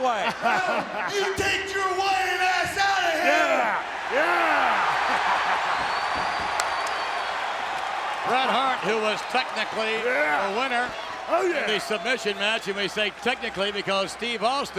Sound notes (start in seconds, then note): 5.5 applause